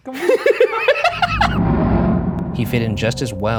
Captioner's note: laughs